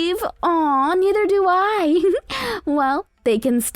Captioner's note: giggles